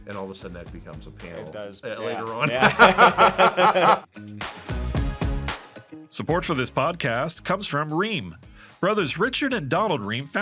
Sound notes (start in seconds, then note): 2.4 both laughing; 4.2 upbeat instrumental music